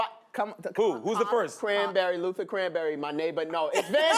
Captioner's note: laughter